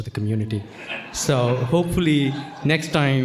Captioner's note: audience laughing